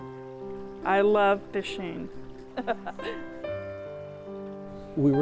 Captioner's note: laughs